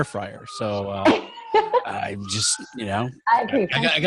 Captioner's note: laughing